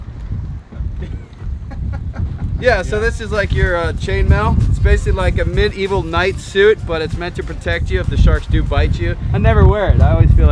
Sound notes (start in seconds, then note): 1.2 laughing